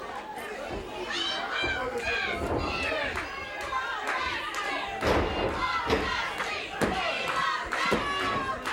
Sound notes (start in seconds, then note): 1.8 crowd chants "We want Dusty"